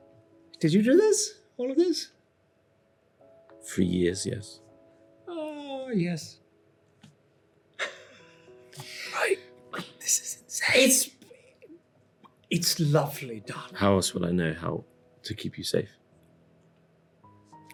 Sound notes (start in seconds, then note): 9.0 whispers